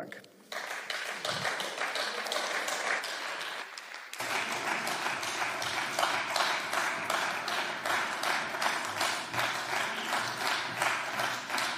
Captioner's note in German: Beifall